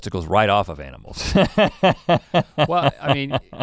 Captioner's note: laughs